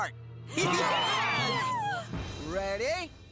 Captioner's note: heroes Cheering